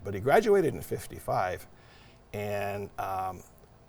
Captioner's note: none